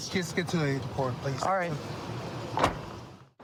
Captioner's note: car door closes